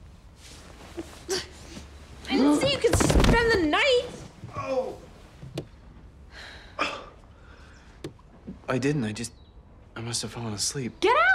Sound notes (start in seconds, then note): 0.6 grunts; 4.5 groans